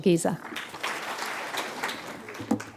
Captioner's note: applause